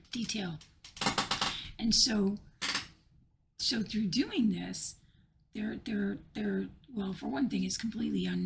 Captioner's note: chair creaks